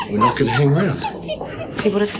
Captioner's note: wolf whining